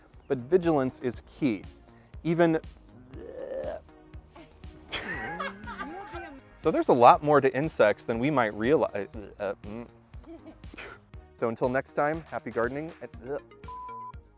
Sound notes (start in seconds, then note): 4.9 all laughing; 8.9 stumbles over words